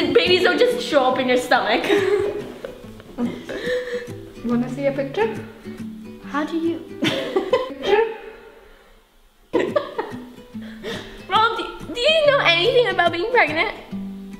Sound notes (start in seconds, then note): 9.5 mom laughing